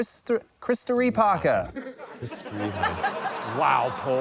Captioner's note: laughter